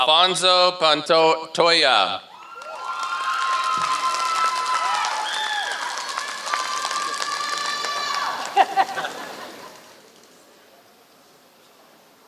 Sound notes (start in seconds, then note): 0.1 applause; 6.1 applause